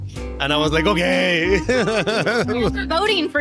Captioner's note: laughs